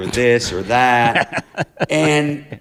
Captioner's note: laughter